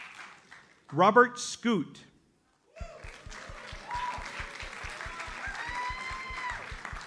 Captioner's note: audience applauds